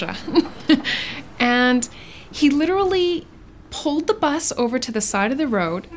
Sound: laughs

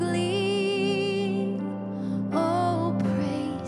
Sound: none

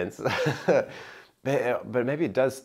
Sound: chuckling

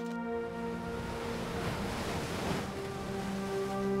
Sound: waves crashing

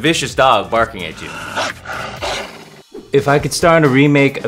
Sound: barks

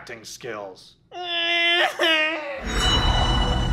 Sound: cries

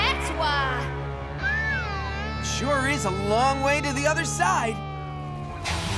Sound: whistles

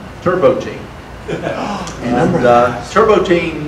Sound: audience laughter

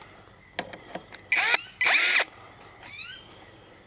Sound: drilling

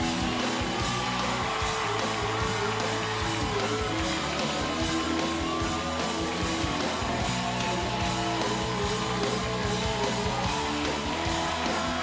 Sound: cheers and applause

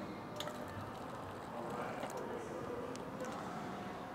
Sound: wine pouring

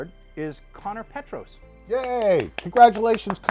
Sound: claps

